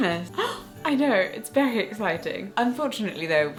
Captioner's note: gasping